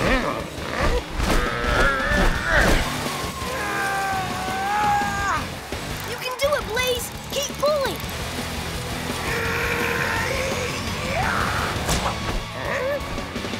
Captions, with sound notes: [grunting] [grunting] You can do it Blaze, keep pulling! [grunting]